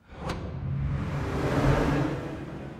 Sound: swoosh transition sound

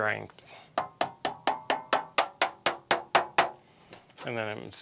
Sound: hammering

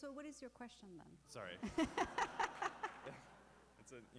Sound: laughter

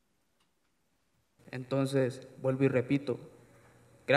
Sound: speaking spanish

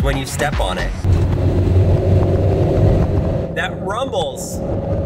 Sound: car rumbles

